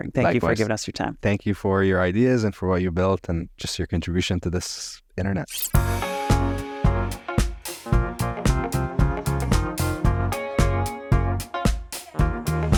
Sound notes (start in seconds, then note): 5.6 upbeat music; 5.8 film squelching